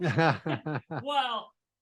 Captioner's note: chuckle